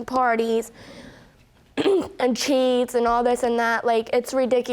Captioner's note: clears throat